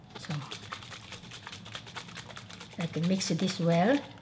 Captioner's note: liquid chugging